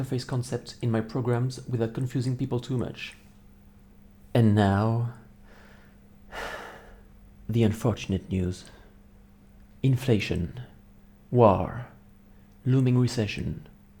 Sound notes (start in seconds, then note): 6.3 sigh